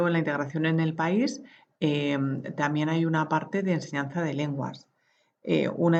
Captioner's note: German